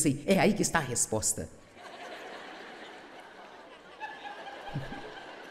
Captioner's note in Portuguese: público rindo